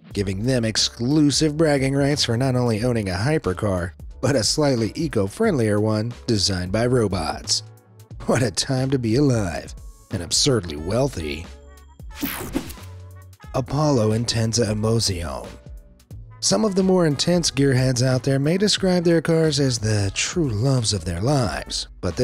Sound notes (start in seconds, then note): 12.1 swooshes